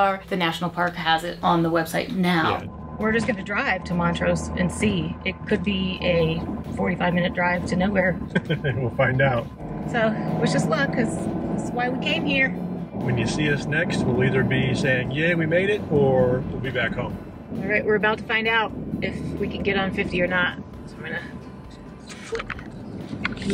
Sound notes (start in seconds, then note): 8.3 giggles